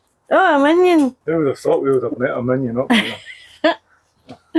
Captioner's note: laughter